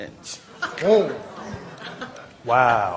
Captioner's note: laughter